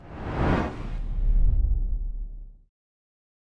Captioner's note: air whooshing